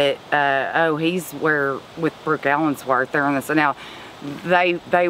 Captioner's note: stammers